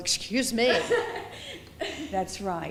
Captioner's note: laughing